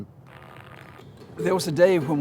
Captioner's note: TV crackles